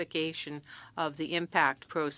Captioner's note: speaking French